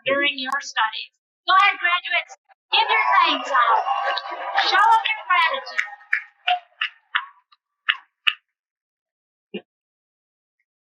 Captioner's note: cheering